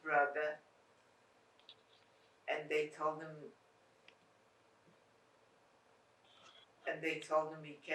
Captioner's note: pauses 6 seconds